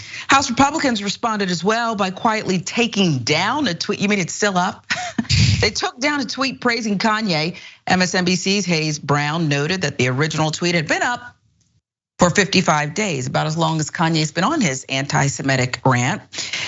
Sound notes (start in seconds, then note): 4.9 laugh